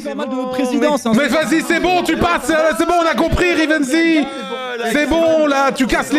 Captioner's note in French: brouhaha en colère